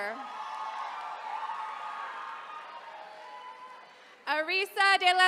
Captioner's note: attendees cheering